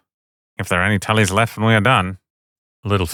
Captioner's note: Tyrion voice